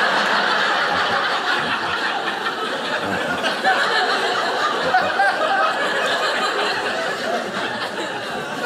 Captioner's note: audience laughing